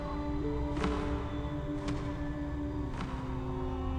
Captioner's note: wings flapping